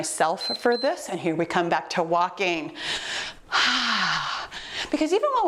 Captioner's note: timer beeps; breathing deeply